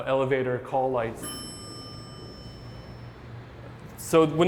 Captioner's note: elevator dings